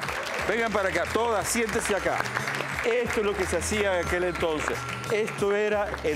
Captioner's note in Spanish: Aplausos